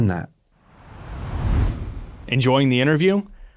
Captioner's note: screen whooshing